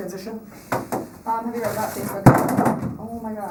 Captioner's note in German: Murmelt; Klappern